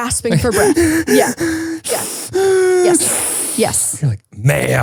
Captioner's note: gasping heavily